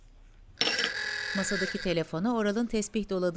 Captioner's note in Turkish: Telefon zili sesi